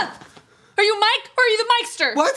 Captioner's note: gasps; yells; both yell